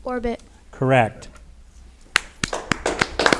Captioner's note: audience applauding